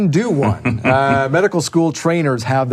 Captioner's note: chuckles